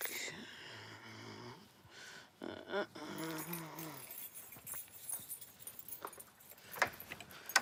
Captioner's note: humming; keys rattling